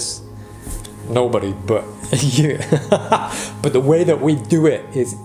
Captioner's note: laughs